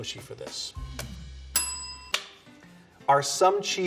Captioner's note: bell ringing